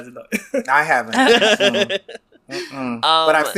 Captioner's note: laughs